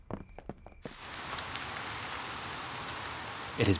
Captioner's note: rain pattering